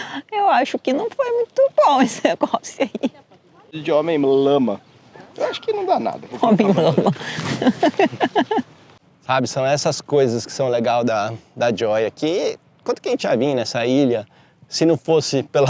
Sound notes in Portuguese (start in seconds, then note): 2.0 risadas; 6.2 risadas